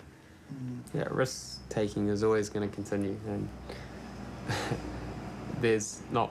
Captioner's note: chuckles